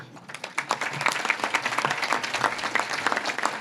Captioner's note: audience claps